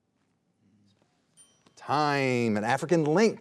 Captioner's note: bell rings